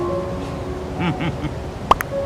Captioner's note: chuckles in happiness